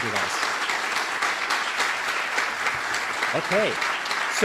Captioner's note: applause